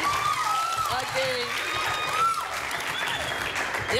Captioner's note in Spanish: Gritos y exclamaciones